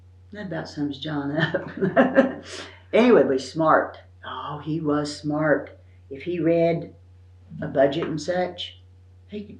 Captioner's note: laughs